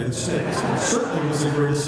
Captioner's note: laughter